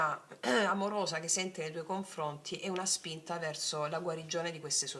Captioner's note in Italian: schiarire la voce